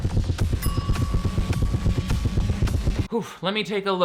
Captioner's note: heart beats; bell rings